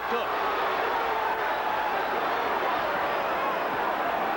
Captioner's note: cheers and howls